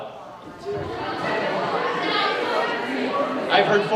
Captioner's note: students murmur